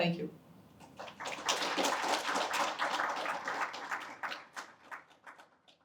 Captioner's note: applause